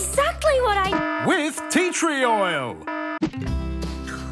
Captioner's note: alarm blares